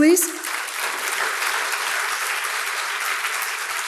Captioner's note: audience applauds